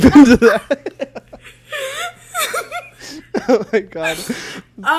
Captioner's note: both laugh